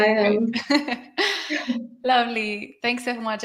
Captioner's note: laughing